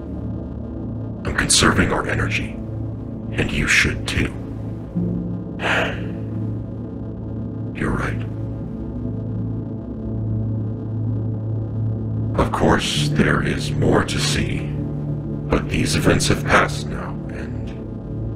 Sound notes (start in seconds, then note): 5.5 sighing